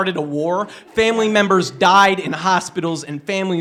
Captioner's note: laughter